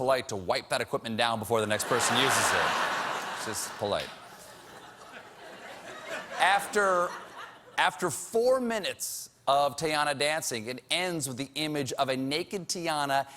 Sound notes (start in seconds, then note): 4.3 laughter